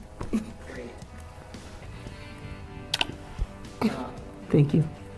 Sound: kissing

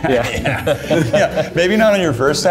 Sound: laughing

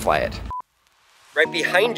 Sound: color bars beeping

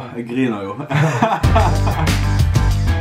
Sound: laughing

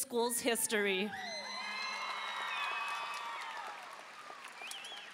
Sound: audience cheering

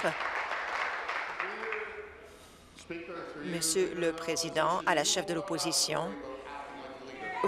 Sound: applause

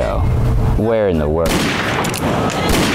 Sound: gunshot sound effect

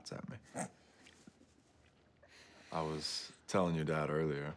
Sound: laughs

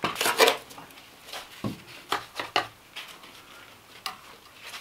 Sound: tool scraping

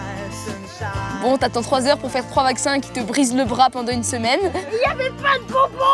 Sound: he laughs

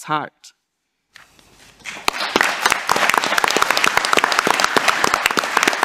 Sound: audience applauding

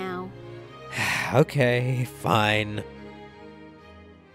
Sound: sigh

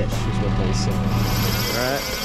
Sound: reel whirring

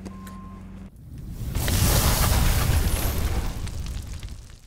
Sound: sparks crackle

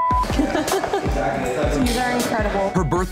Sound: laughing

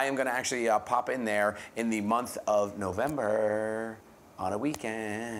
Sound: sing-song voice

